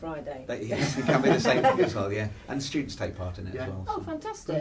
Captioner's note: laughs